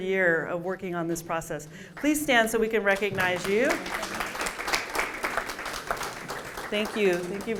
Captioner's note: applause